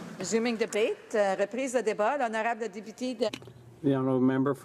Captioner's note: some Applause